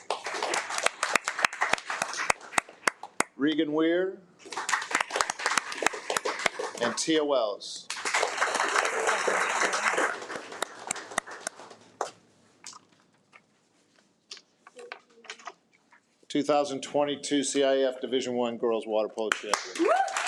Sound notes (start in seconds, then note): 0.0 attendees applaud; 4.4 attendees applaud; 19.4 attendees applaud and cheer